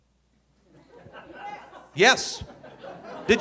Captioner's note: audience laughing